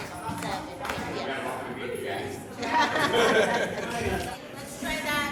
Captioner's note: performers chattering